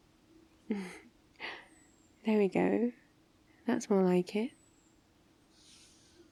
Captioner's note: small laugh